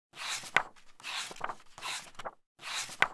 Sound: pages turning

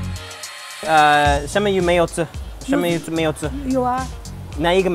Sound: speaking Chinese

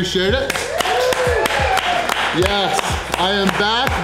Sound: crowd clapping and cheering

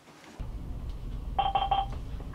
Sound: intercom beeping

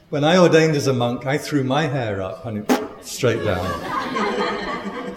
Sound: splat

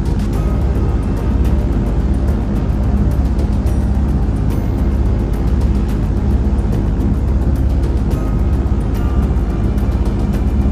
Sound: airplane Engine Sounds

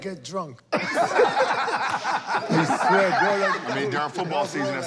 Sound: laughter

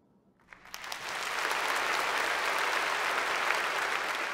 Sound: applause

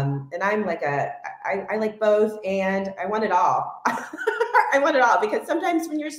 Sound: laughs

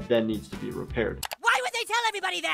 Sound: computer mouse clicking

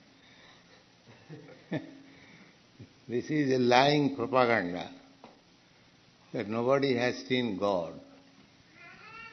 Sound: chuckles

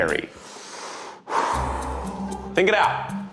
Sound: breathes loudly; light inquisitive music

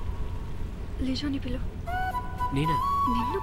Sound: whispers

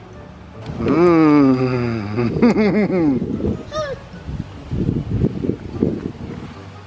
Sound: laughing

